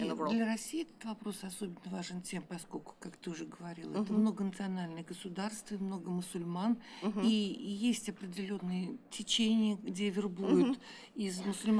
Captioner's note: speaking russian